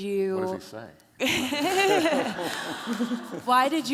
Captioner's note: laughter